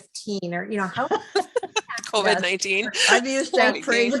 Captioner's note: laughing